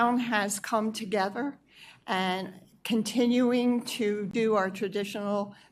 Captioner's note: none